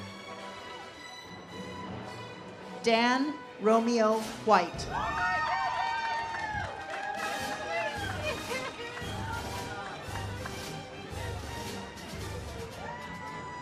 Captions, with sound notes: Dan Romeo-White. (audience cheers) (ceremonial music)